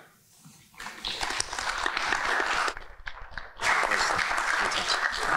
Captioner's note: congregation clapping